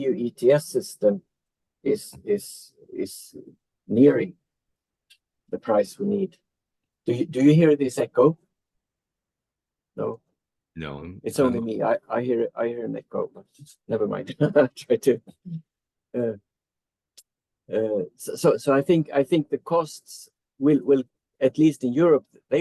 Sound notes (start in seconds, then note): 14.2 chuckles